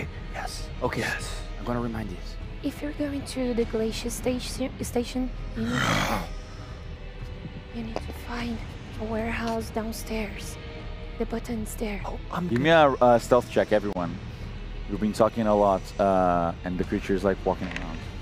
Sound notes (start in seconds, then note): 5.5 uaahhg